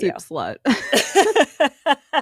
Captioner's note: laughs